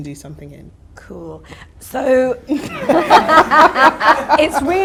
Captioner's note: audience laughter